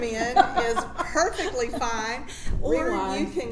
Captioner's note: laughs